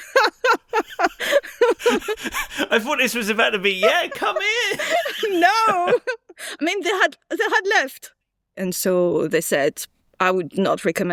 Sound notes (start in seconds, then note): 0.1 laughs